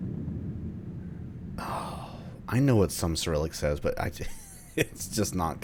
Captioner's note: laughs